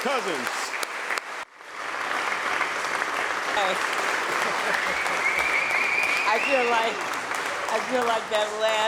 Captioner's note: applause